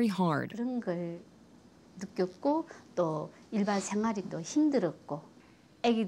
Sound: speaks foreign language

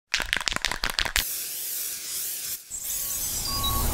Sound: spray can rattling; spray paint hissing; truck beeping

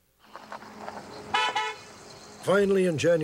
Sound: horn honks

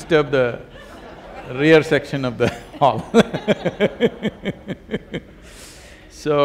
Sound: laughter

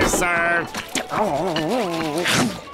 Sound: groaning

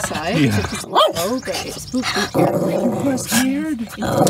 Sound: scared growl

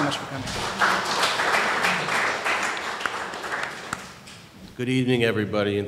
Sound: audience applause

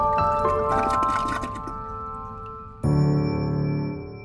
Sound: toilet flushing

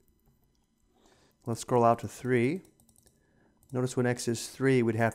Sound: clicking sounds

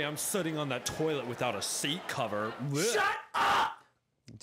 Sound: gags

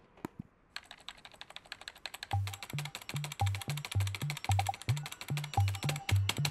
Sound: keyboard keys frantically tapping

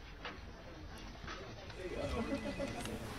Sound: distant chatting

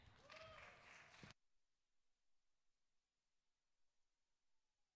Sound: audience cheering

